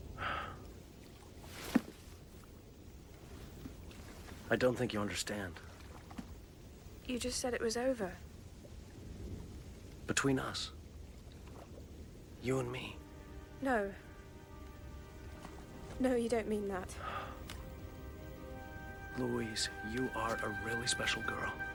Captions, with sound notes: (Matthew sighs) - I don't think you understand. - You just said it was over. - Between us. You and me. - No. No, you don't mean that. (Matthew sighs) - Louise, you are a really special girl,